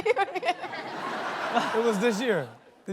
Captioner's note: audience laughing; laughs